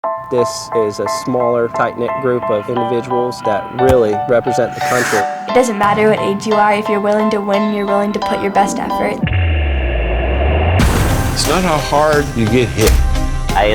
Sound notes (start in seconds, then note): 0.0 upbeat piano music begins; 3.8 slams; 9.2 intense music